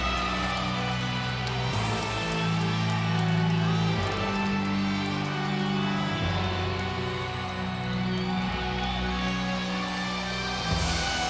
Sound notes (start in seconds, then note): 0.3 ominous music continues; 3.6 audience applauds and cheers